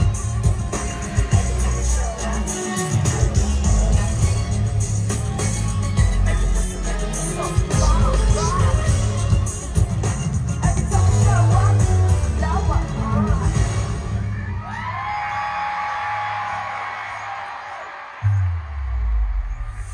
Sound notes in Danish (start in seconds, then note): 7.1 Bifald